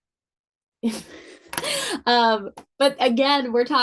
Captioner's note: laughing